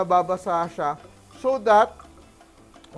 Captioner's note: sizzle